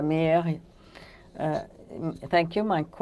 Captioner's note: speaking French